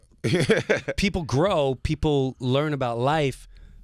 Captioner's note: laughing